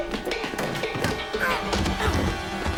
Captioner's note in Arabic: همهمات